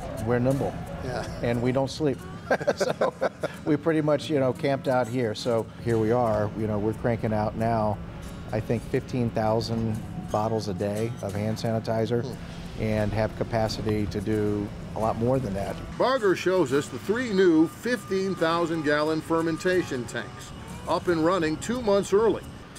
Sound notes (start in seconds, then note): 2.2 laughs